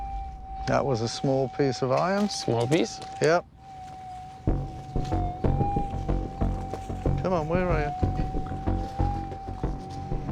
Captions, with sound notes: That was a small piece of iron. Small piece? Yup. [humming] Come on. Where are you?